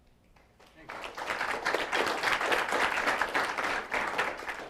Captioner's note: applause